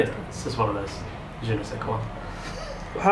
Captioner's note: chuckling